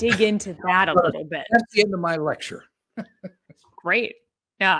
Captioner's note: laughs